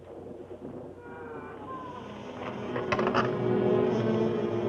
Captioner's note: door creaking; ominous music; candle creaking